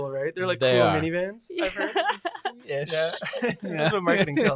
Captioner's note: laughs